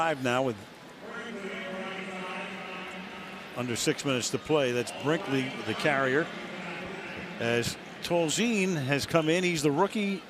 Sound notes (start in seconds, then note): 1.4 pa announcement